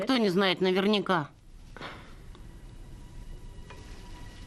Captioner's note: sighs